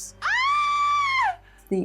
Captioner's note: scream